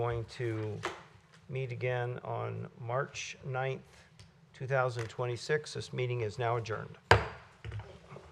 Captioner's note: gavel